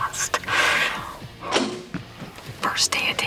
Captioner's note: bow twangs